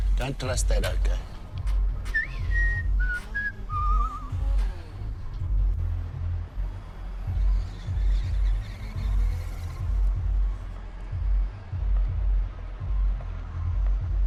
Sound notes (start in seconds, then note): 1.2 whistles